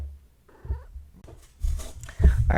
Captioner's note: inquisitive purr